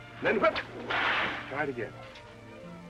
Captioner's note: cracking whip